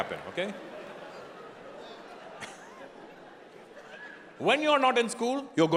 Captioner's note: audience laughing